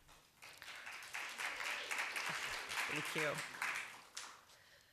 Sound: applause

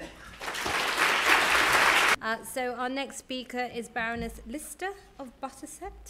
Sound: applause

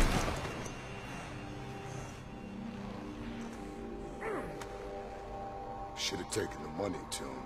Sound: grunts

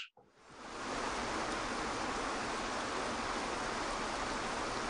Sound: water flowing

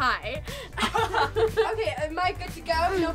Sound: laugh

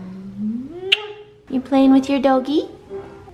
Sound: lips smacking

